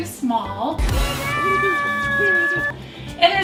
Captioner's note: kid cries from being stuck